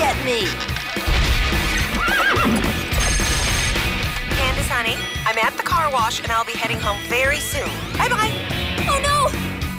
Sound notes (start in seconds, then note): 1.8 horse neighs; 4.9 cell phone rings